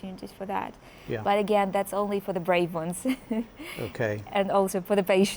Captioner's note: laughs